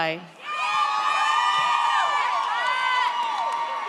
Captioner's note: audience cheers